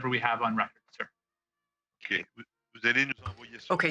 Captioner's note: speaking French